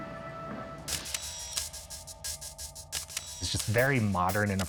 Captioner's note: camera shutter clicking